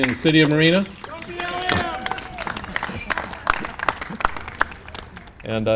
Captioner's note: Clapping and shouting "Go BLM"